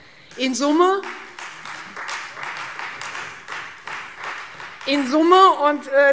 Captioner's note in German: Beifall Freie Demokraten